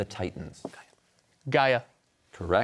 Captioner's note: whispers